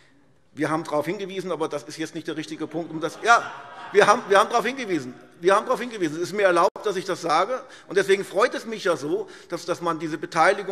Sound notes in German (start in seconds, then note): 2.6 Lachen